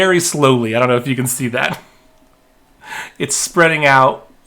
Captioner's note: chuckling